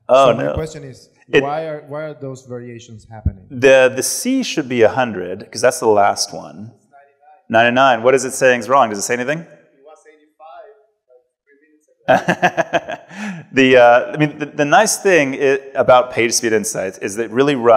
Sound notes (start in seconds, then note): 12.0 laughs